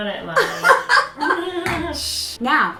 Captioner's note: laughs